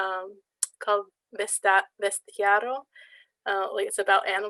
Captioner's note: speaking spanish